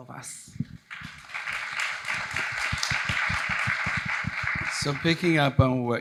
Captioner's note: audience applauding